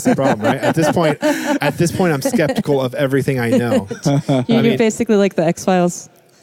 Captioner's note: laughing